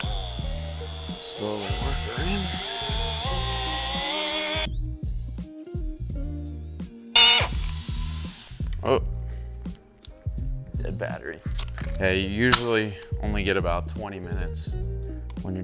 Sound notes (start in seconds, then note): 0.0 buffer revving; 4.9 high-pitched buffer revving; 12.5 battery door clicking